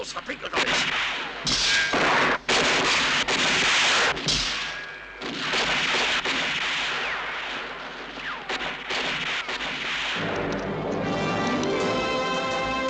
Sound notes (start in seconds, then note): 1.7 guns firing; 10.2 dramatic music